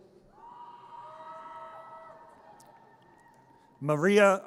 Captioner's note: audience cheers